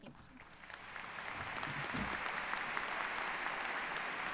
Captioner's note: applause